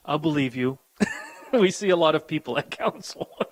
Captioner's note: chuckles